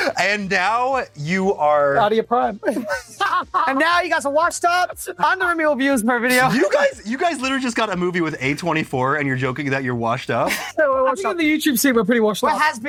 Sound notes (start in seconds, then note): 2.7 laughs